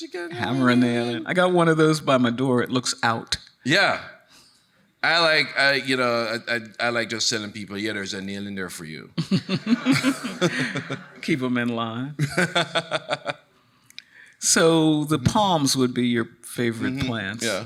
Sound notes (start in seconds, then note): 9.2 chuckling; 9.2 laughs; 9.2 audience laughing; 12.2 laughing